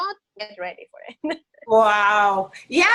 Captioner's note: laughs